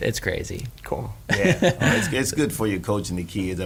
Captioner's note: laughing